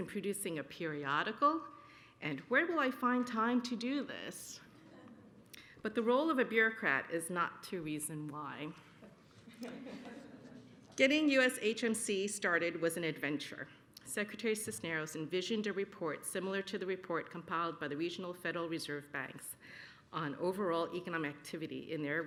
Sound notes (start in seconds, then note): 9.4 laughter